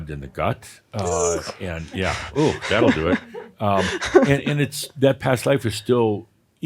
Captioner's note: she chuckles